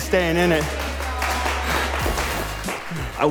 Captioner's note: contestants clapping